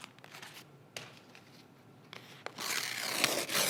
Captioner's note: page thudding; pages ripping